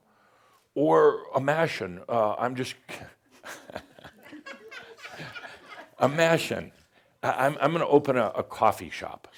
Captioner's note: he pauses and chuckles, some giggles